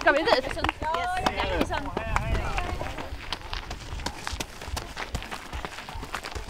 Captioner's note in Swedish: Applåder